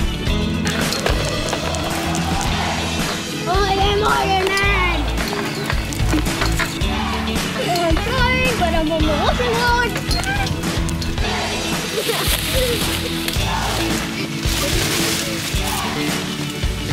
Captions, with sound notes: - I am Ironman! And I'm flying, but I'm on the washing line. (laughs)